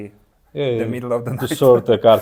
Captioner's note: laughs